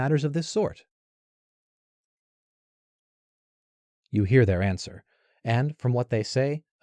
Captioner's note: silence